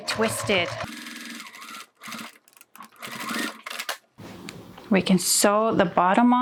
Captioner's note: sewing machine whirring